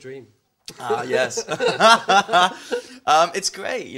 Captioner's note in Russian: ржёт как конь